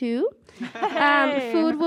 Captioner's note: laughter